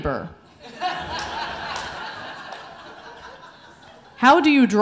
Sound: audience laughing

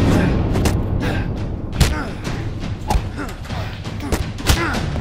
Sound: both grunting

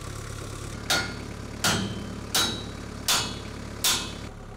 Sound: metal clanks

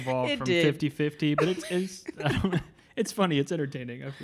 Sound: laughing

